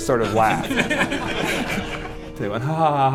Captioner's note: laughter